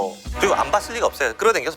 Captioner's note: sudden burst